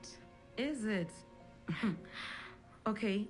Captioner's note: chuckles